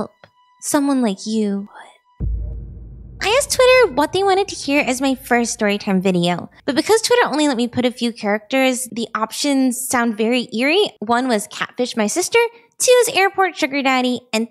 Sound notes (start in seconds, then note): 1.6 whispered